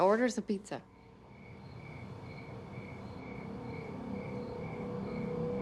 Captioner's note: crickets chirping